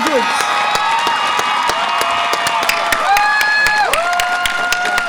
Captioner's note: audience applause and cheer